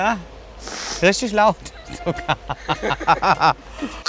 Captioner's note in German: lacht